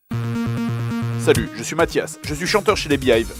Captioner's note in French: voix déformée